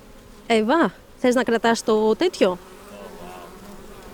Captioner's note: speaking greek